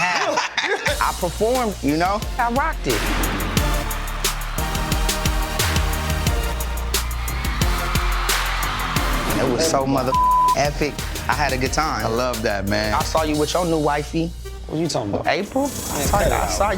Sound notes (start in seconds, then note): 0.0 laughing; 3.8 upbeat music; 10.1 beep